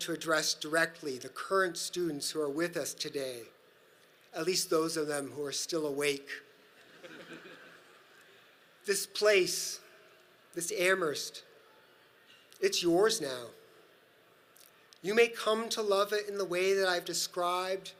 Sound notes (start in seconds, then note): 6.8 audience laughs